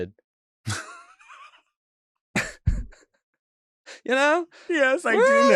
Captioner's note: chuckles